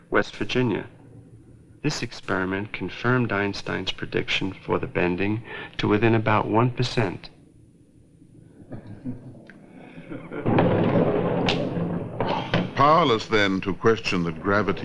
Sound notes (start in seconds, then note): 9.8 chuckling